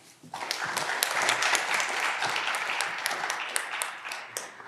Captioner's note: audience clapping